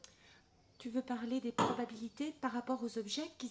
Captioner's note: none